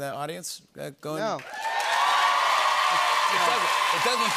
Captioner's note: cheers and applause